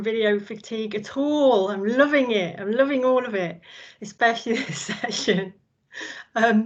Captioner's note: laughs